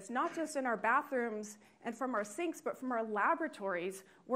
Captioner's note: none